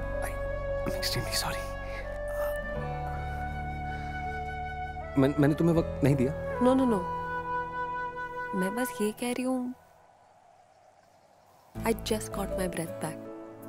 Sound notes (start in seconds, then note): none